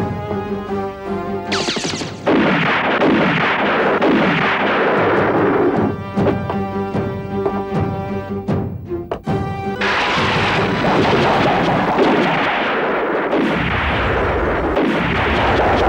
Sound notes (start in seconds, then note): 1.5 explosion; 11.9 explosion